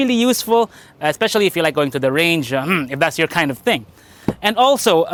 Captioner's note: ehem